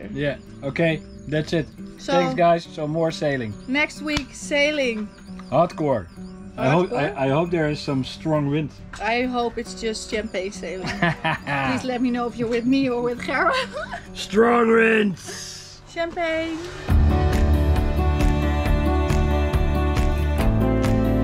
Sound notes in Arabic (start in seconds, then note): 10.8 يضحك; 16.3 موسيقى درامية